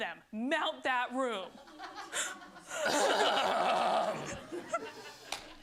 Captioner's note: laughter